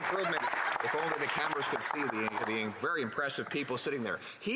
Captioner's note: some Applause